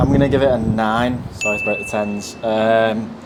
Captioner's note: bell chime